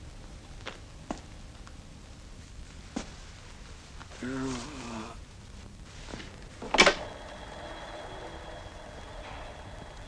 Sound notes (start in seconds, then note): 1.8 barely audible moan, sigh